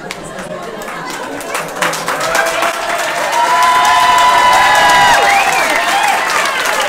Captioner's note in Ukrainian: сміх, овації